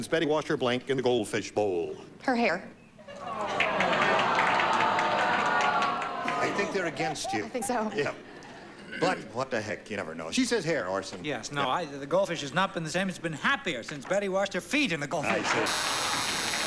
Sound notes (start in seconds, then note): 3.1 audience groans